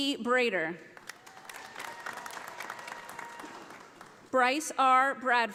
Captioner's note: audience applauding